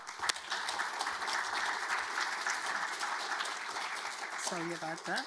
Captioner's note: audience applauding